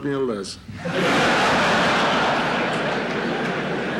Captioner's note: laughter in courtroom